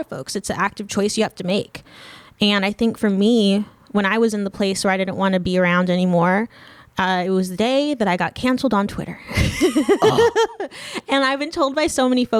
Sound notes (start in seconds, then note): 9.4 laughing